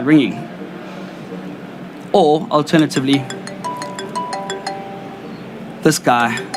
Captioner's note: phone ringing